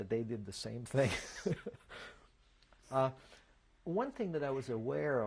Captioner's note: laughs